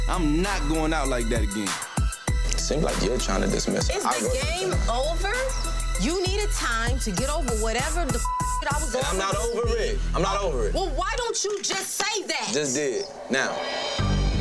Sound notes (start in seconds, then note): 7.0 beeps; 9.4 overlapping chatter